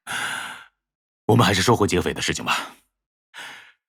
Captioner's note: sigh